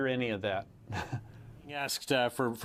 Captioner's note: laughs